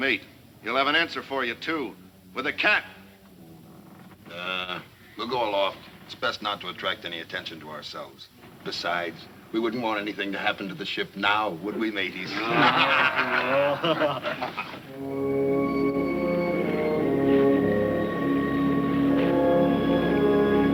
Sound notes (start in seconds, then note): 12.2 men laughing; 14.9 light adventurous music